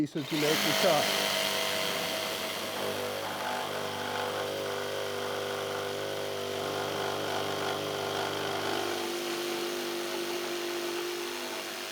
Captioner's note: jigsaw whirring